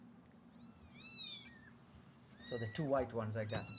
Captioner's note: kittens mewing